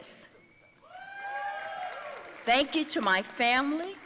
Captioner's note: audience cheering